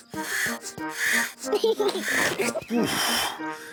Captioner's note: giggles excitedly